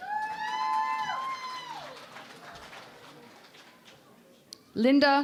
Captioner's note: cheering and Applause